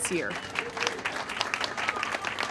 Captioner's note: applause